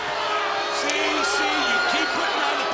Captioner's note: crowd cheering